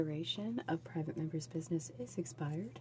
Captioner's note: speaking French